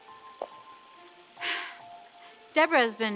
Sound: sighs

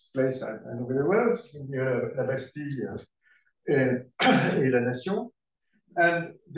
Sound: french

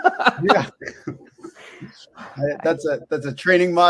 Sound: laughing

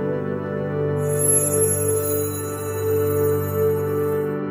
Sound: high pitched glowy shriek

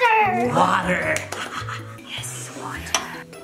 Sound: laughs

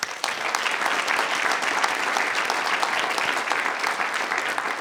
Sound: audience applauding

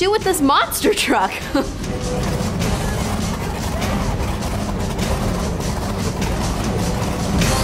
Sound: loud car noises

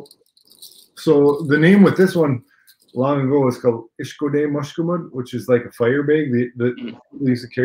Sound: speaking Ojibwe

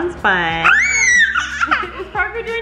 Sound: screams

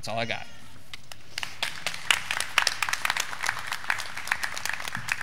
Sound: graduands clapping

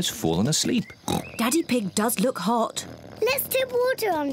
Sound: oinks

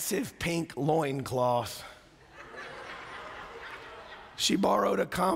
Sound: laughter

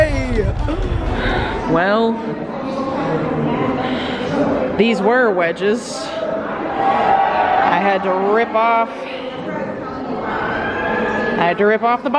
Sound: sigh

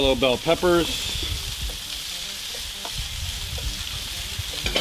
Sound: pan simmering

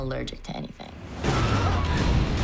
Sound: screams

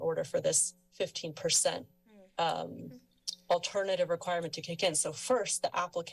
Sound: tsk

